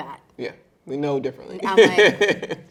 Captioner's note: chuckling